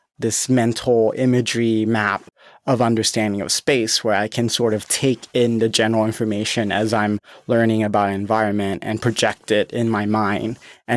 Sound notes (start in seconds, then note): none